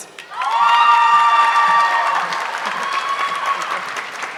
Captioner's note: audience clapping